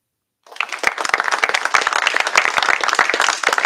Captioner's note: applause